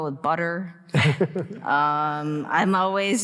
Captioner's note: both laughing